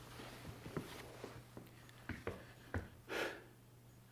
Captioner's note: footsteps approaching